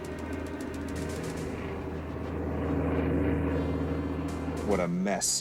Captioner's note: suspenseful music; plane engine rumbling